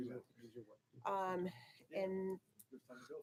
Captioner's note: people chattering